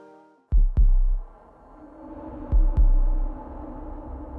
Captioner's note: heart beat